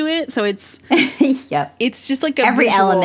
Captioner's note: laughs